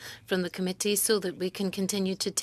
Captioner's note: speaking French